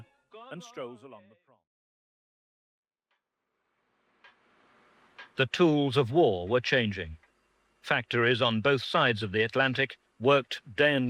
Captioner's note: voiceover